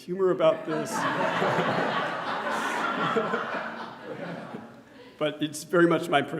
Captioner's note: audience laughing